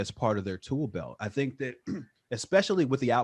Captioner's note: clears throat